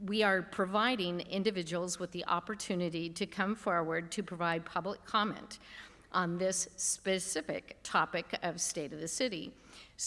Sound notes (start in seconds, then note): none